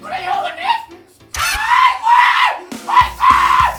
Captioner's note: ahhh! Bua!!!!